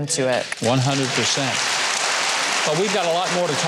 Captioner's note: audience applauding